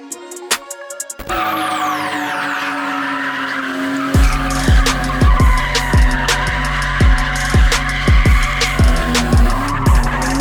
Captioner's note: tires screeching; engine revving